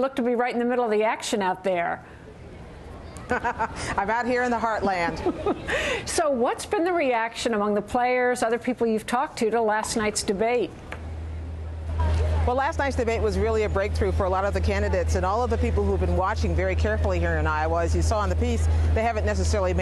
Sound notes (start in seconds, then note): 3.1 laughter